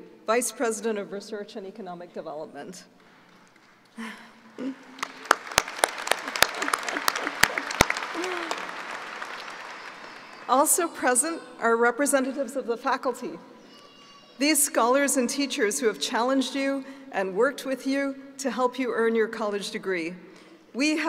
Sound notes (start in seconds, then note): 4.9 applauding